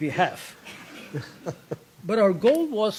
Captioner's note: laughter